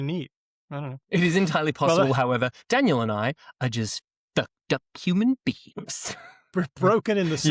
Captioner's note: chuckles